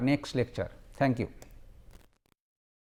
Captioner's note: fuzzy